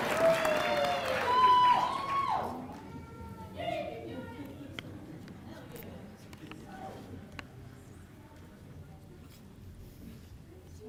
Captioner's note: applause